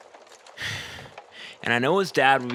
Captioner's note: sighs dramatically